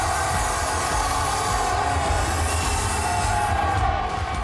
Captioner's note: smoke hissing